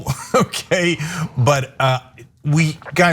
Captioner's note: laugh